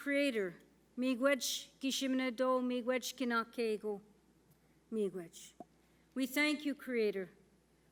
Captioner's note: speaking Indigenous